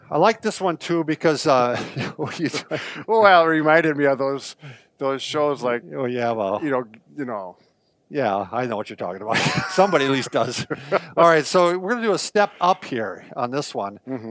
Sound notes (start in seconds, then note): 1.7 laughs; 9.3 laughing